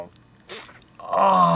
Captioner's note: squelch